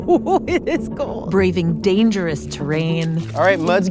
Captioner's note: laughs